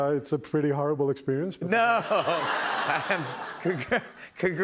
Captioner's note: laughter